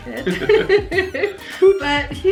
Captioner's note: both laugh